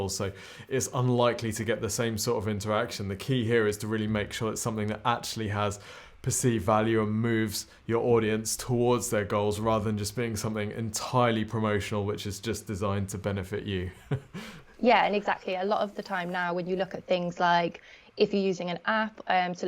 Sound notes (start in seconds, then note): 13.8 laughs